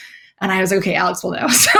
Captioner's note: laughs